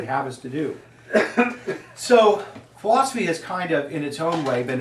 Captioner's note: student coughs